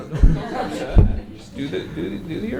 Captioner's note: audience laughing